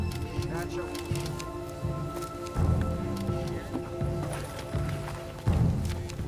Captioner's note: suspenseful music; camera shutters clicking